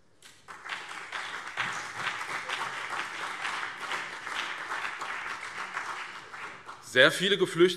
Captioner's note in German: Beifall BÜNDNIS 90/DIE GRÜNEN und vereinzelt CDU